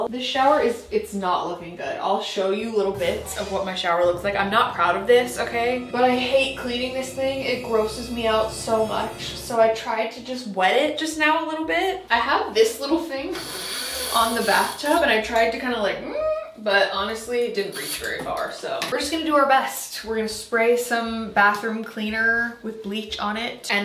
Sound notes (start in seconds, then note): 2.8 dark dramatic music; 15.9 cries out under breath